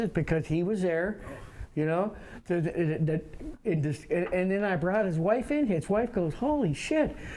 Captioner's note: none